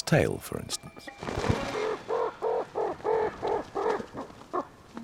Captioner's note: magpie cawing